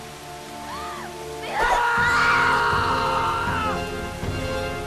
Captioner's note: screaming